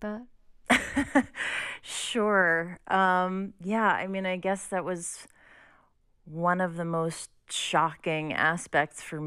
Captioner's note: laughter